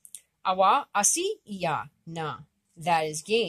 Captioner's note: speaking Abenaki